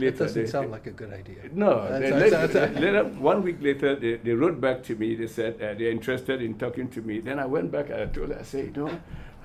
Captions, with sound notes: - It doesn't sound like a good idea. (all laugh) One week later, they wrote back to me. They said they're interested in talking to me. Then I went back and I said,